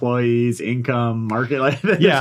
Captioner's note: laughs